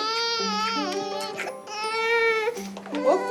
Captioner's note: cries